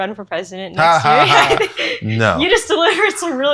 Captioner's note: laughs